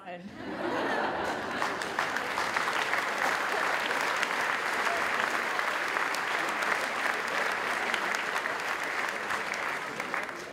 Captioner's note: applause